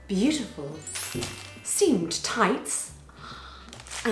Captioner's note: bell chimes